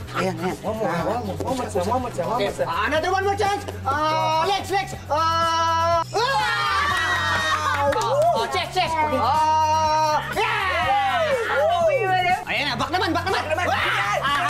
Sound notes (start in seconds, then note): 9.0 everyone cheers